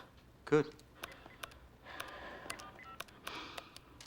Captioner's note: dialing; sighs